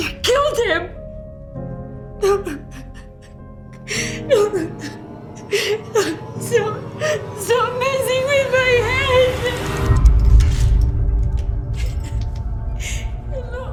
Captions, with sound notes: - You killed him? (sobbing) Stop messing with my head!